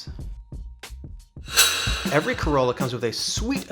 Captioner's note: dramatic sound